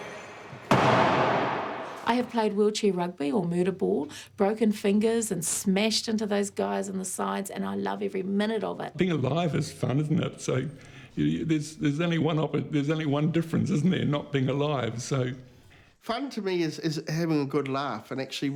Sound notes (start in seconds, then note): 0.0 crash